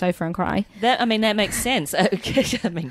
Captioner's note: laughs